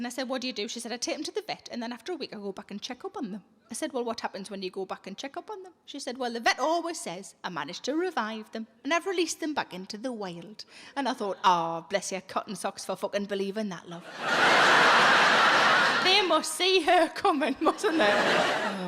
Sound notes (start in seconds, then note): 14.0 audience laughs